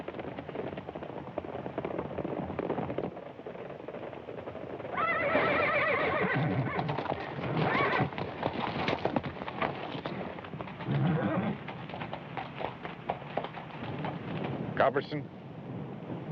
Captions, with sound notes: [Horses neighing] Culbertson?